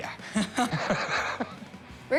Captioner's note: both laugh